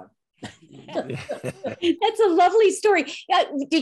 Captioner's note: laughing